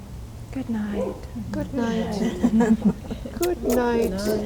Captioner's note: laughter